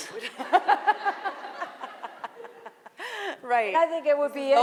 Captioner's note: laughing